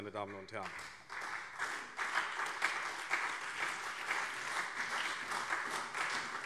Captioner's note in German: Beifall SPD und vereinzelt BÜNDNIS 90/DIE GRÜNEN